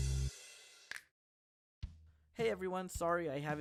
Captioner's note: snap